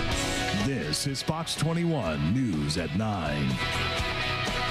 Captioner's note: voiceover